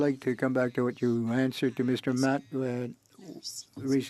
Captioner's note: speaking French